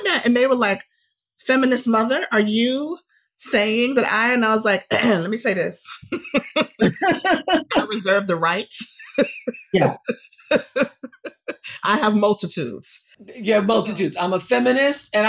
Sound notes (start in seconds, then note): 4.9 clears throat